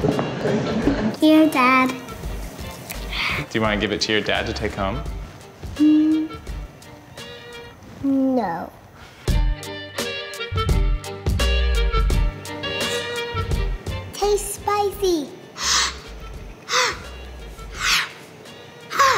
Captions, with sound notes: Here Dad. No. Too spicy! (breathing heavily)